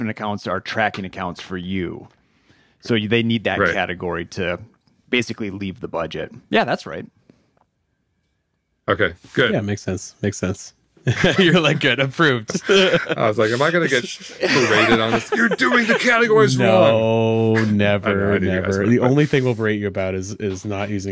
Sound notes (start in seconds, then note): 12.3 laughs